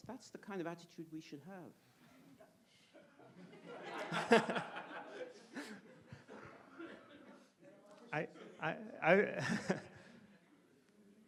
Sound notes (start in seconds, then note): 3.0 audience laughs; 10.0 laughs